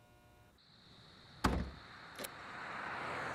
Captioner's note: trunk shuts